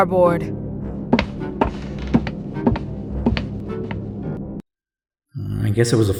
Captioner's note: walking